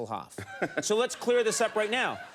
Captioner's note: laughing